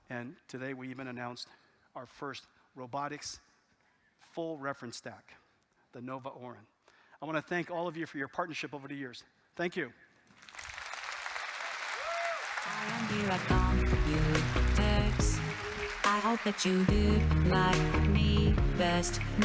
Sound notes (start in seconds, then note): 10.3 audience applauding